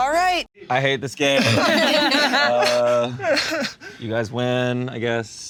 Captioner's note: group laughing